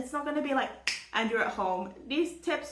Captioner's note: snap